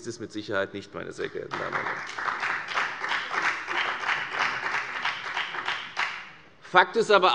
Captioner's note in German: Beifall bei der FDP und dem BÜNDNIS 90/DIE GRÜNEN